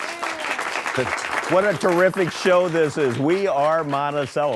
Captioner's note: applause